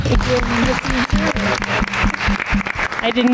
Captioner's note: everyone applauds